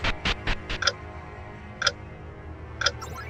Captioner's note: loud clock ticking